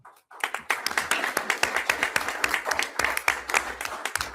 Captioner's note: everyone applauds